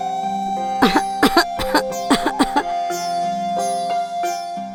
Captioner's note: coughs